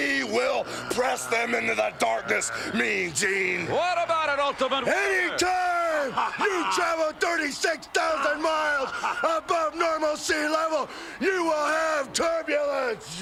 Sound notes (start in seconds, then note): 6.2 laugh